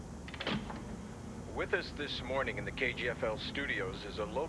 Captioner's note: woman over recorder